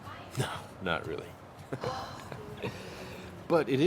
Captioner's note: laughs